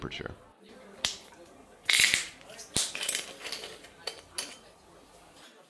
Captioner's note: peeling plastic and popping the cap